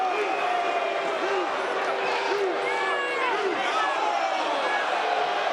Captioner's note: crowd chants "You suck"